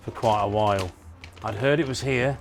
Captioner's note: plastic crackling